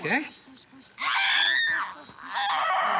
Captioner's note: screams